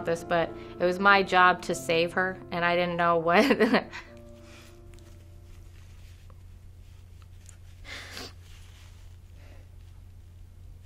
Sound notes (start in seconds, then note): 3.3 snickers; 4.2 silence; 7.8 sniffles; 9.5 silence